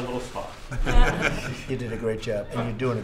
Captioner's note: laughter